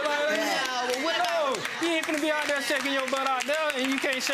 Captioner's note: clapping